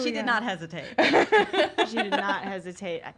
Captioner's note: laugh together